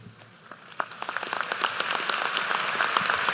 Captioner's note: applause